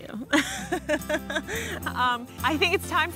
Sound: laughing

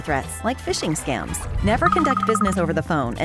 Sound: phone ringing

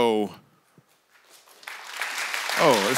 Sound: congregation applauds

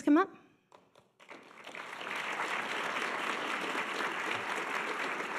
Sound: audience applause

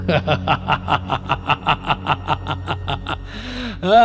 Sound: triumphant laugh

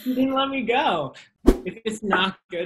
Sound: whoosh

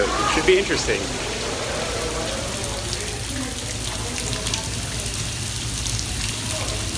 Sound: water splashing

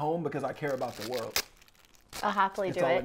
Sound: paper Ripping

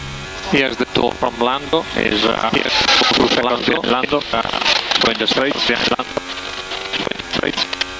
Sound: feedback

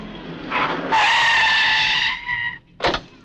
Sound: brakes squeal

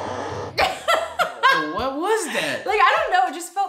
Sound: laughing

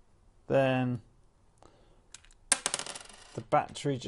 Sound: battery clattering

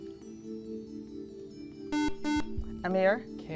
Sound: buzzer

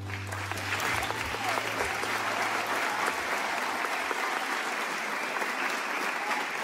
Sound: audience applauding; audience cheering

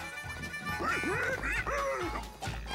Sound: rolo squealing

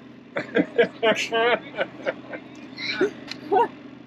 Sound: laughs

